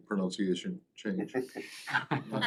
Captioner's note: laughter